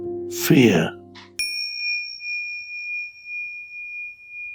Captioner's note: bell dinging